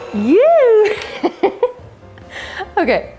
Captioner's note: laughs